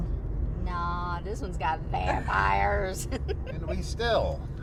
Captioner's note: laughs